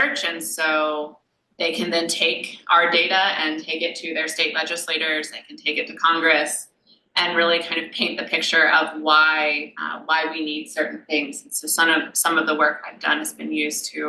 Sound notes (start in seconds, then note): none